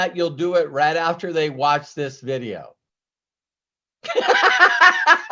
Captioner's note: laughs